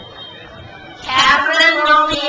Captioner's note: crowd cheers